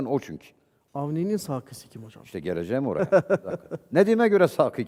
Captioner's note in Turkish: kahkaha